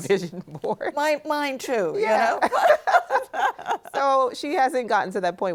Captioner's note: laughs; laughing